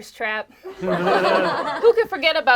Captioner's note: group laughs